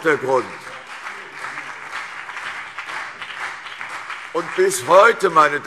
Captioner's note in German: Beifall CDU und BÜNDNIS 90/DIE GRÜNEN